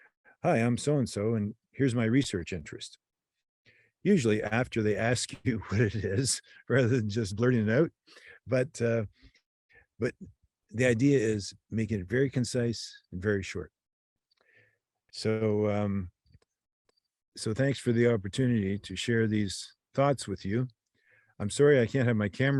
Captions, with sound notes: “Hi, I'm so-and-so, and here's my research interest.” Usually after they ask you what it is, rather than just blurting it out [laughs] but the idea is making it very concise and very short. So, thanks for the opportunity to share these thoughts with you. I'm sorry I can't have my